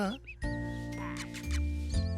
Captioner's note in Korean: 새가 키스하는 소리